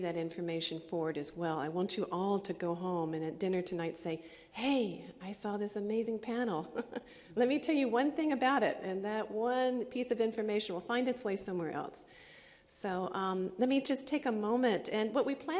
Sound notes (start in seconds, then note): 6.6 laughs